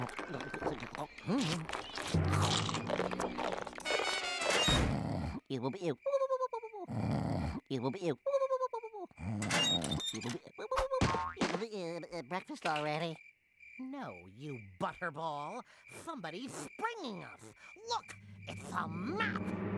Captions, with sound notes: HMM. [snoring] BREAKFAST ALREADY? NO, YOU BUTTERBALL, SOMEBODY IS SPRINGING US! LOOK! IT'S A MAP.